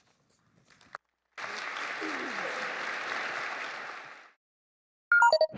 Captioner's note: applause